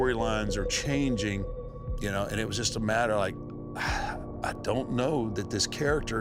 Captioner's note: sighs